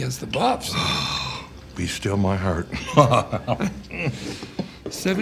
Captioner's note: Frank moans; chuckles